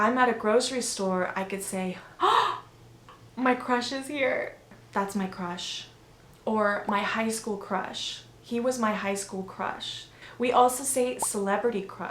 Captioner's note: gasp